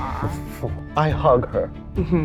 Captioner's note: chuckling